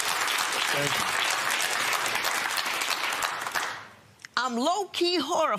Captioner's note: applause